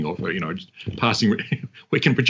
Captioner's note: chuckles